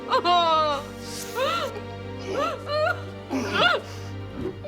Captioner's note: heavy breathing